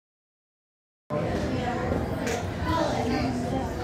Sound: chatter

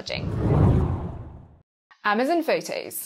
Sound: screen whooshing

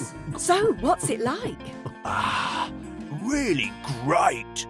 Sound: gulping sounds

